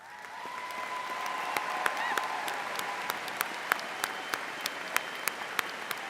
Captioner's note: audience applauding and cheering